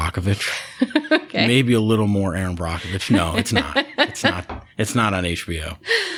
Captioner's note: laughter; laughter